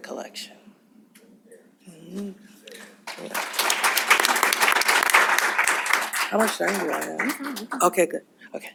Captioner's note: applause